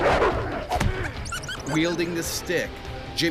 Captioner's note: whimpers; voiceover